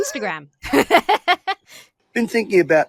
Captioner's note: laughs